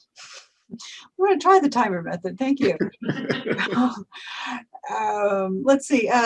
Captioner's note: laughs